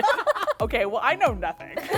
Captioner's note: laughs